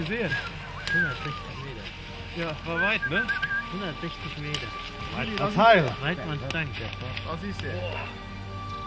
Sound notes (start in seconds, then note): 3.6 speking in German